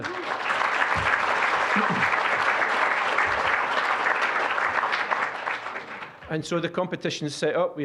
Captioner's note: applause